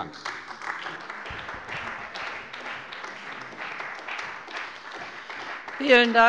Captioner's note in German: Beifall bei der CDU und dem BÜNDNIS 90/DIE GRÜNEN